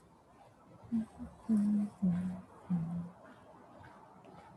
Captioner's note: hums